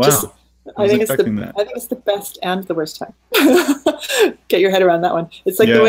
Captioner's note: laughing